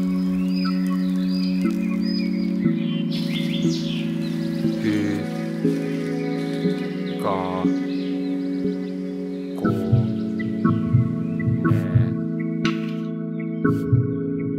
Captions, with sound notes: [Finnish]: "one.. two... three... four..."